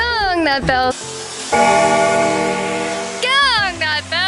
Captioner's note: bell rings